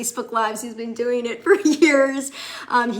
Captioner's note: chuckles